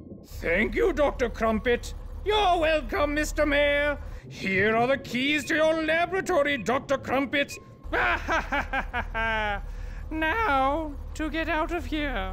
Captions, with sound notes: Thank you, Dr. Crumpet. You're welcome, Mr. Mayor! Here are the keys to your laboratory, Dr. Crumpet! [laughs] Now, to get out of here.